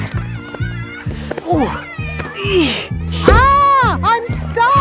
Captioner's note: grunting